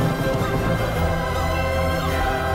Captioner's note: none